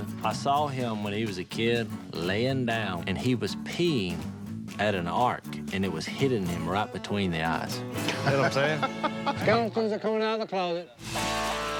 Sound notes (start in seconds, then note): 8.0 laughs